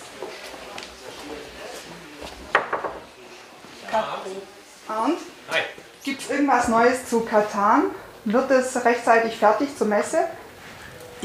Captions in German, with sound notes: (Stimmengewirr) (Sie klopft.) Tach. Arnd? - Hi. Gibt's irgendwas Neues zu Catan? Wird es rechtzeitig fertig zur Messe?